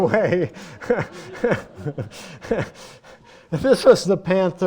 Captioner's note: laughter